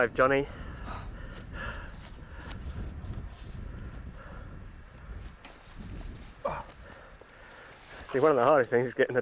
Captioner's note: panting